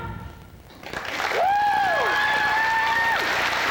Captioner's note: cheers, applause